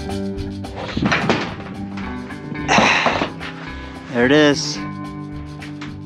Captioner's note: sheet metal clanging